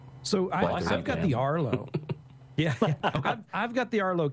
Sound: panelists laughing

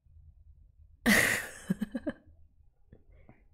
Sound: laughs

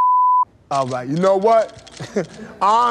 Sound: beep; laughs

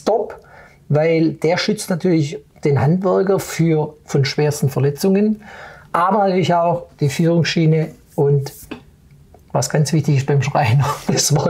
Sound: laughs

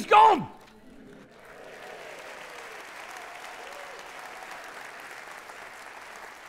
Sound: audience clapping and cheering

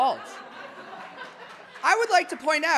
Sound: audience laughing

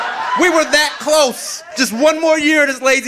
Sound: audience laughing

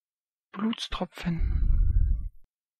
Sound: fast Pronunciation

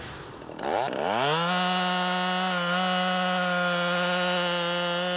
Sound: saw runs

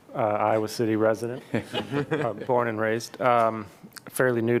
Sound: laughter

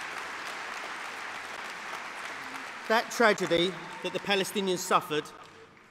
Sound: applause

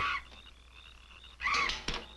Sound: bat screeches

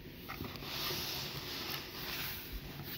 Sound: box spins

